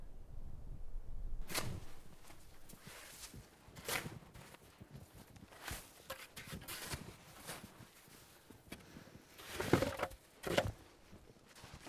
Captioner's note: sound of snow being shovelled